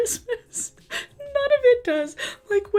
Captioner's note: laughs